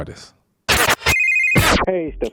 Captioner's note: phone rings